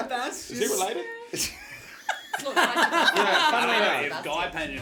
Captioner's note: chaotic laughter